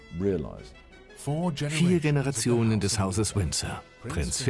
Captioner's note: voiceover